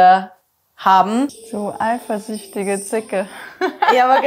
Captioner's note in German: Lachen